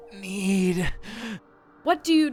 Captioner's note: gasps